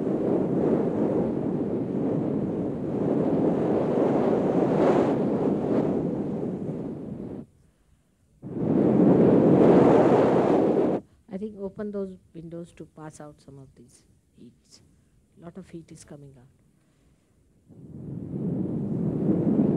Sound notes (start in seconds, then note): 8.7 mother speaks in Marathi